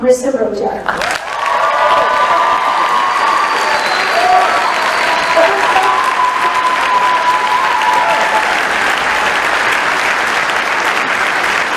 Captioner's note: crowd applauds